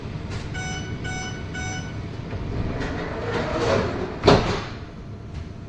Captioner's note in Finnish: ovien sulkeutumisääni